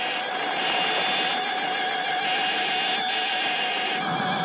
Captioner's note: lasers blasting